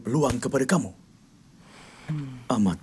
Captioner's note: sighs